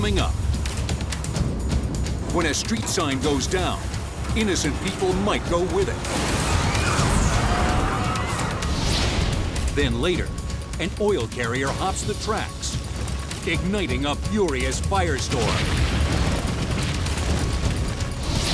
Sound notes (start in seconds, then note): 6.5 metals slam; 15.2 fuel explodes